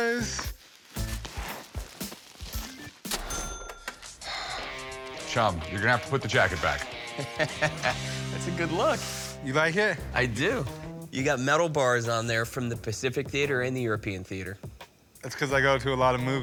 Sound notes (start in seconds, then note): 0.9 mischievous music; 4.2 sighs; 6.4 laughing